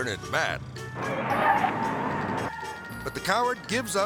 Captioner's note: tires screeching